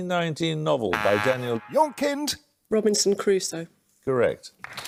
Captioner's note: buzzer; applause